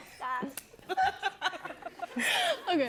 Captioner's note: laughter